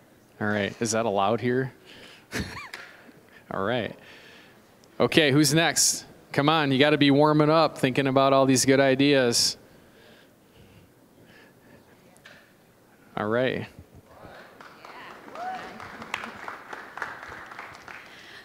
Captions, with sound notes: All right, is that allowed here? (chuckling) All right. Okay, who's next? Come on, you gotta be warming up, thinking about all these good ideas. All right. (applause)